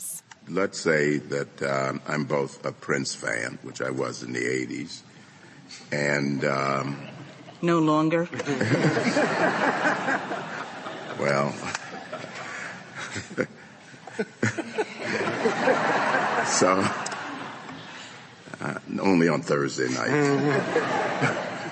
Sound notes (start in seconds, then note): 10.1 laughter; 14.6 laughter